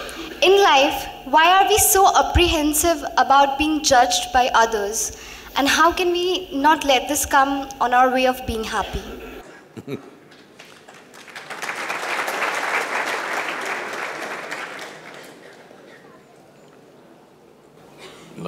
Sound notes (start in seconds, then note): 9.7 Sadhguru laughs; 14.2 applause